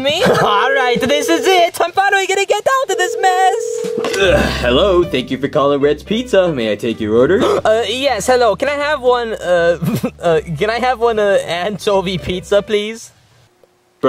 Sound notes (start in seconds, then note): 2.5 phone ringing